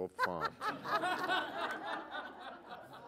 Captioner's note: laughter